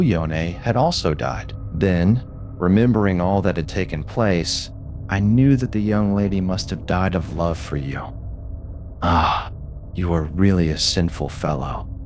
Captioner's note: _Laughing_